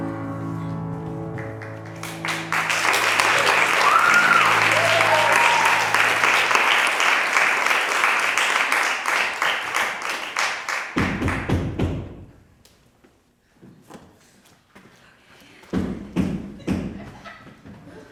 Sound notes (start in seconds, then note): 1.4 applause; 10.6 knocking